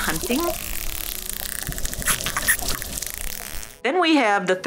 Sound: dolphin clicking

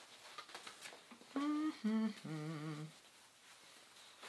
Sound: hums

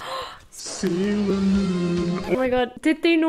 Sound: gasp

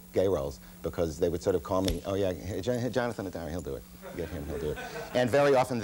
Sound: snaps fingers

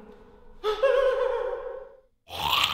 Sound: scared breathing; snarling

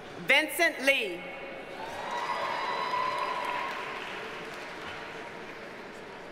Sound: audience cheers and applauds

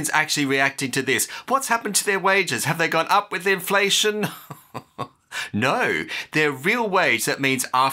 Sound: chuckle

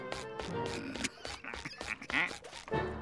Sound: stifled laughter

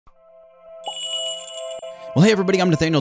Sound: magical jingle

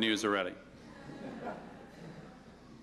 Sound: laughter

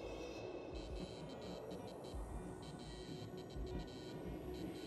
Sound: lights buzzing

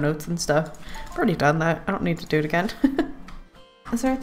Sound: laughs

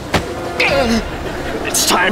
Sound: groaning

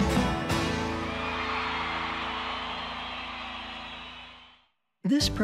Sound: audience cheering

